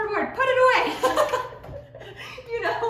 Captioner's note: laughter